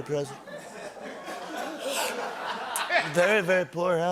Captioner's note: slurps